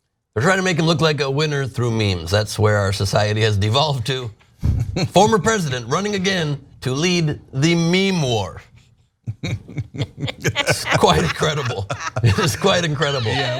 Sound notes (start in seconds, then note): 9.2 laugh